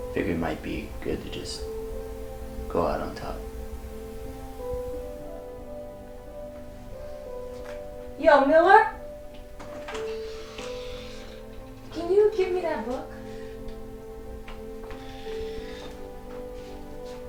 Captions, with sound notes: - Figure it might be good to just go out on top. (melancholy music) - Yo, Miller? (door hinges creak) Can you give me that book? (melancholy music)